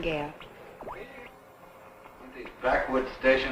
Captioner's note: radio tuning